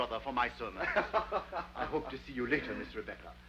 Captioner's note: Rawdon laughs